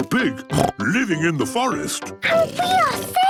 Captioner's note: snorts